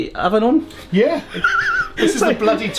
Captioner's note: laughing